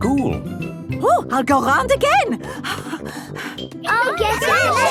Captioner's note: puffing